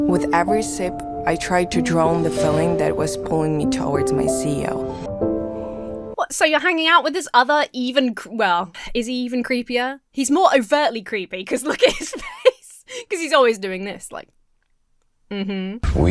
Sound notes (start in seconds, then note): 11.6 Emma laughs